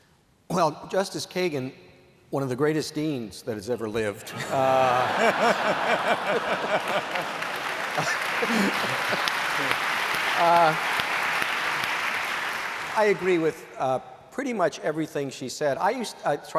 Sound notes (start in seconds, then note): 4.2 laughter; 9.5 applause